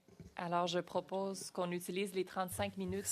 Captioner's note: speaking French